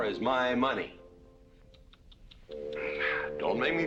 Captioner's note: tsk tsk tsk